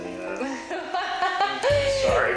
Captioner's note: laughs